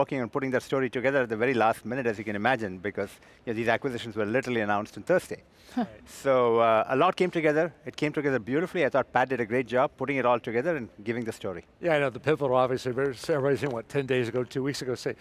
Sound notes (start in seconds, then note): 5.6 laughs